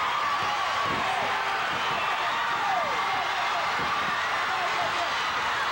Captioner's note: audience cheering continues